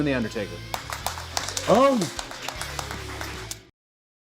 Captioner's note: all clapping